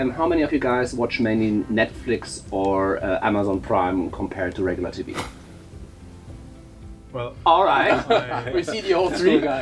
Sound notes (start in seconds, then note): 5.0 whoosh; 7.8 laughter